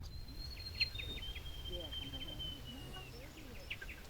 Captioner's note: birds chirping